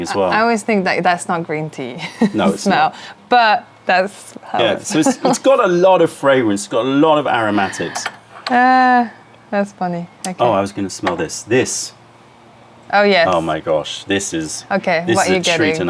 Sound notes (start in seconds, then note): 2.0 laughter; 9.2 sips tea